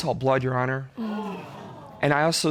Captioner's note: audience groans